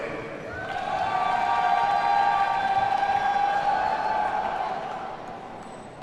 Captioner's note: audience cheers and applauds